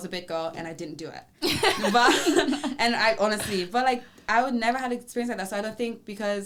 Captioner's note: laughs